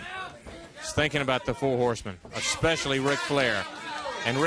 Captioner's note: crowd chatter